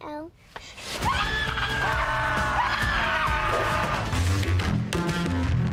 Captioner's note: screaming